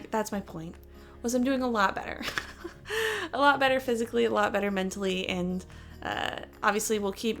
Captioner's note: chuckle